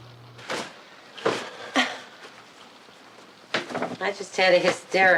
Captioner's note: Betty chuckles